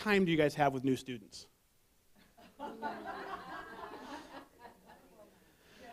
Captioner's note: background voices